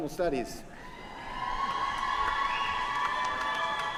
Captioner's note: cheering